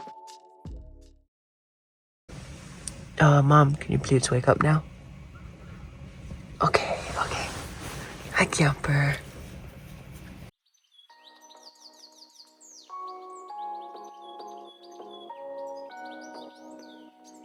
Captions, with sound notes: Er, Mom, can you please wake up now. Okay. Okay. Hi, Camper. (birds tweeting) (bright music)